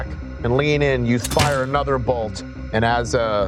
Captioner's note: bolt striking